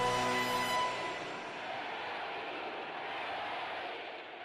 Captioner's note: dramatic rousing music; crowd chanting